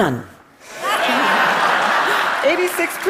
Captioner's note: Laughter; 笑聲